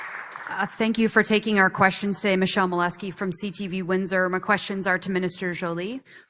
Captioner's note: applause